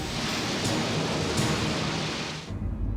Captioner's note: jet engines rumble